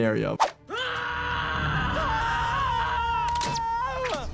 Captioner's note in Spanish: Ambos gritan